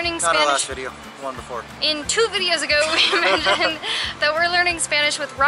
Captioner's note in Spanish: risas